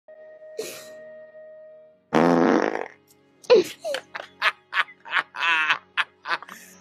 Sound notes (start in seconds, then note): 2.1 loud fart noise